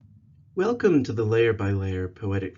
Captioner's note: in Hebrew